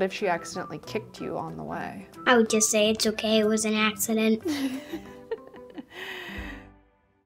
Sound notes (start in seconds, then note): 4.4 interviewer laughs